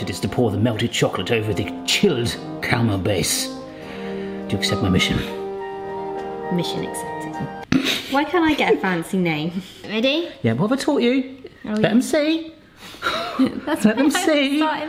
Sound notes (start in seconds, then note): 7.6 laughing